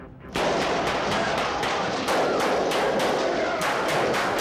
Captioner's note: gunfire popping